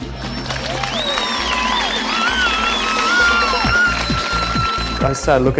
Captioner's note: audience cheering and applauding